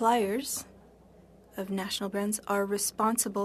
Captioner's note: speaking French